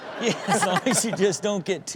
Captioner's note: crowd laughs